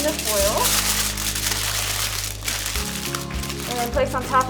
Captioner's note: foil crinkles